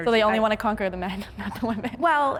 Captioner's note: laughs